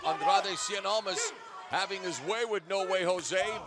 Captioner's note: none